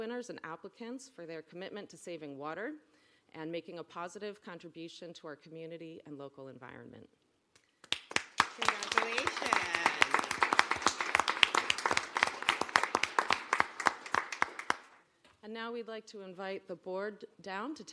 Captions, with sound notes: and applicants for their commitment to saving water and making a positive contribution to our community and local environment. [applause] Congratulations. [applause] And now we'd like to invite the Board down